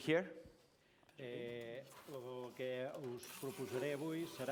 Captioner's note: non-english speech